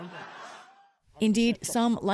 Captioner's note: laughter